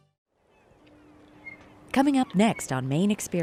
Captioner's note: gulls caw; water laps